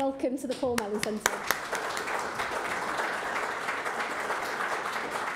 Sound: audience applauds

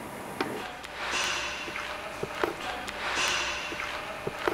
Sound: metal rattling, distant conversations

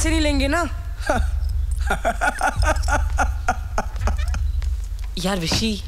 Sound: laughs

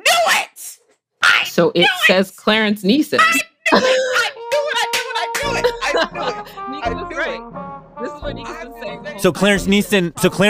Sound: laughs

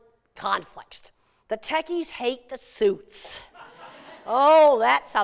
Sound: laughter

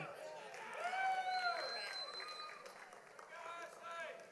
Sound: audience applauds

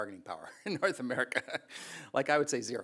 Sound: chuckles

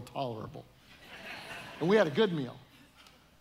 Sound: audience laughing

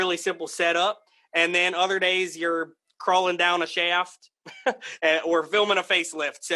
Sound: chuckles

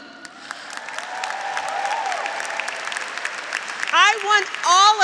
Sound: graduates applauding; graduates cheering

